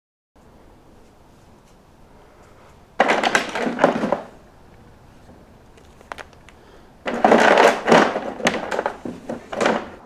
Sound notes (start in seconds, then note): 6.0 setting figure on floor